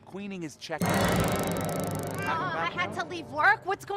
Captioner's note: taser buzz